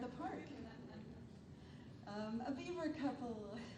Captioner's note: attendees chuckles